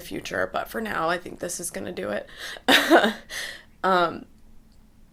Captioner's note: laughs